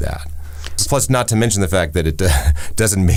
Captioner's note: laughs